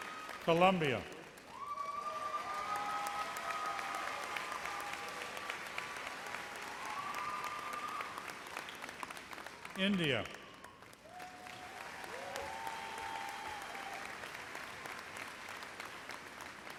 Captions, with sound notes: Colombia. (cheers and applause) India. (applause)